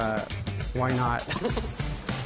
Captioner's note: laughter; laughs